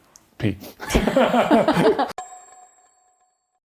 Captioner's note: laughing